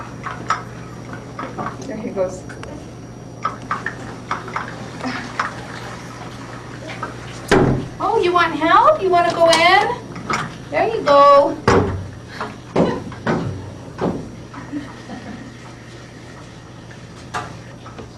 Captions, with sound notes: - There he goes. (thud) Oh you want help, you wanna go in? There you go. (thuds)